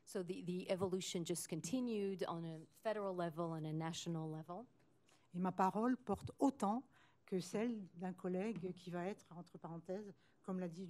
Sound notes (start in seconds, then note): 5.3 speaking french